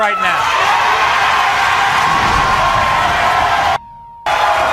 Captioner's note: audience cheering